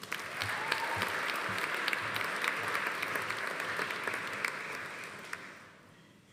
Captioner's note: audience applauding; audience cheering